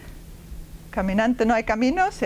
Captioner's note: speaking spanish